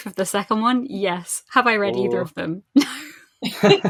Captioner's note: laughs